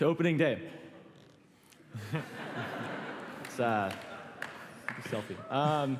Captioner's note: laughter